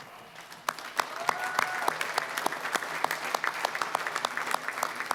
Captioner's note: applause, cheering; applause